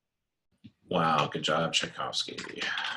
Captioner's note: typing